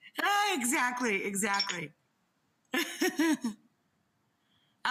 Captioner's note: laughs